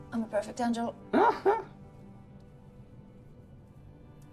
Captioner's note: Tom laughing